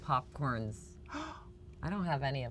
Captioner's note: gasps